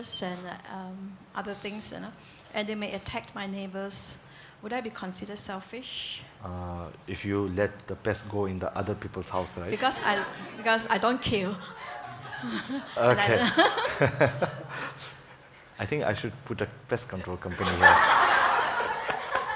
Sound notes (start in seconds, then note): 11.4 laughs